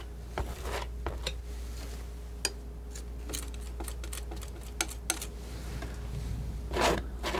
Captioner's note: scissors snipping